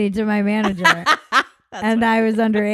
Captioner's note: laughing